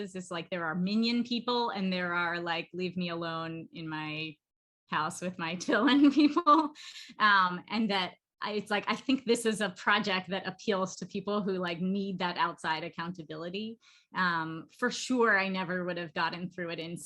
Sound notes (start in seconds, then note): 5.8 laughter